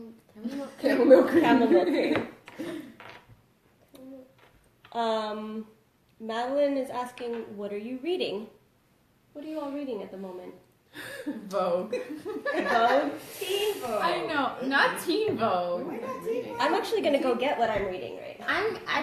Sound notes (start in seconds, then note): 4.2 laughs; 11.9 laughs